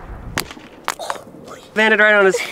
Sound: toy falls on cement

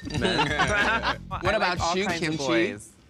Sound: all laughing

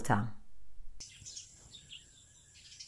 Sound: birds chirping

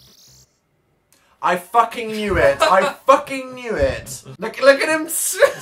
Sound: bursts into laughter; breaks off laughing

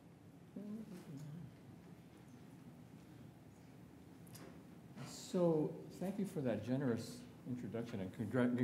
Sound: humming

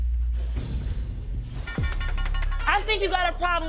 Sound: knife clinking

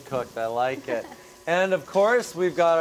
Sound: laughs

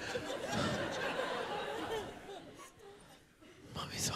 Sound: laughter

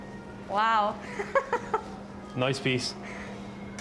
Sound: laughs

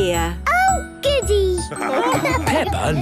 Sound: laughing

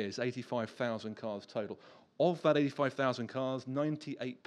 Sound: none

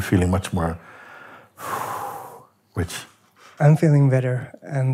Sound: relaxed exhale

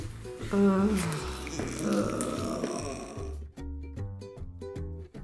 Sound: groaning; playful music

